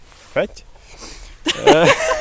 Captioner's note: laughing